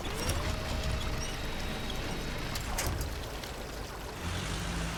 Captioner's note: truck engine whirring